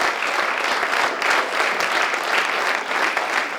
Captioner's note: applause